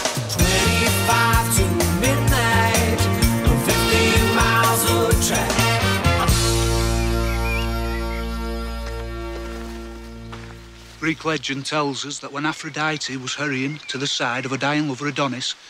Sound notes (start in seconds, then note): 6.0 birds tweeting